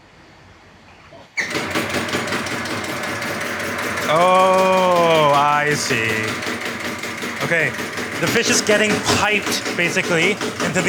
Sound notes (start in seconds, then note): 1.4 machine whirring